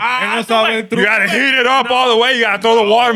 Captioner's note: non-english Speech